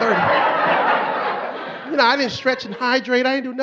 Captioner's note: audience laughing